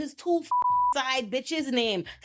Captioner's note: beep